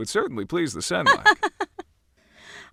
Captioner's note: laugh